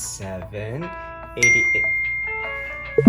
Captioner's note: phone dings